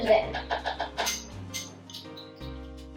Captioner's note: spoon tapping bowl